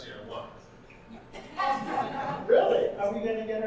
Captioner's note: audience laughing